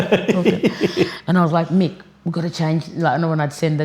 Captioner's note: laughing